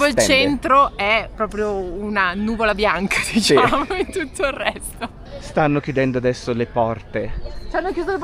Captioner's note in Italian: risate